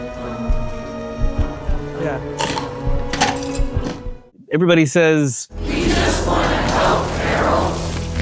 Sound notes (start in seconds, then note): 2.2 medical tools clacking; 3.7 eerie music